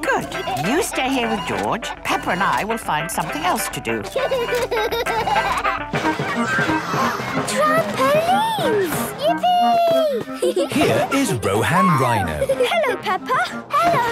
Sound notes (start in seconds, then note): 0.0 giggling; 4.0 George giggles; 6.9 gasps; 9.6 giggling